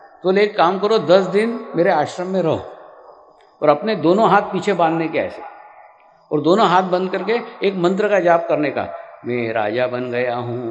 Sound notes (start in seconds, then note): 7.8 incantation